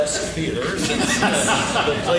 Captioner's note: laughing; laughs